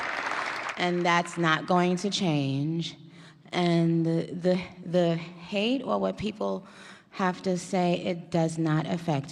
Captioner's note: cheers and applause